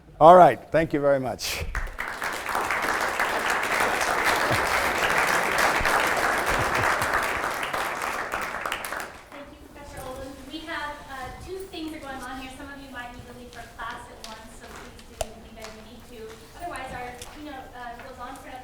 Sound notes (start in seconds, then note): 1.6 applause